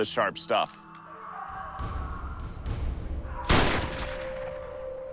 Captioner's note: distant snarling